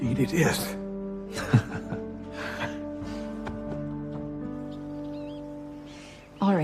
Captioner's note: both chuckle